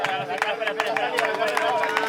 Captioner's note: crowds cheering